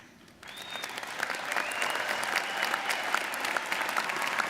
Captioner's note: audience applauding